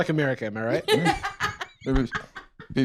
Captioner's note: laughs